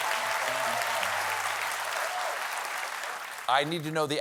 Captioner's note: applause